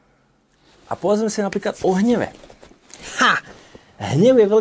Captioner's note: laughs